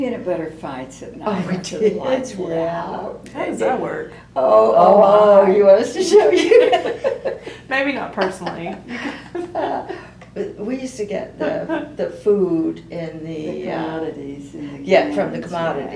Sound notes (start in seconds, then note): 8.2 laughs; 10.4 laughter